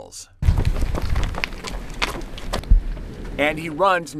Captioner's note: ground crunching